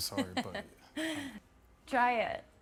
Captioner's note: laughing